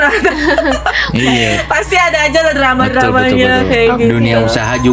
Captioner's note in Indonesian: tertawa